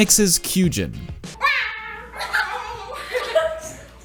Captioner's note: strange cat noise